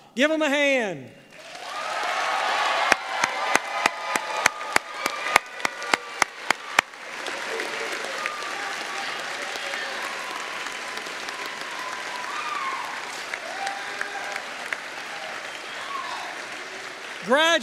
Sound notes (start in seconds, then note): 1.5 applause